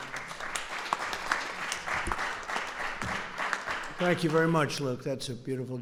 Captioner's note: applause